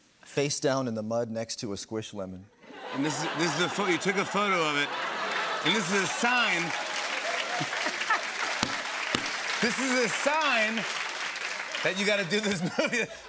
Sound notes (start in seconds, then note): 6.9 cheers and applause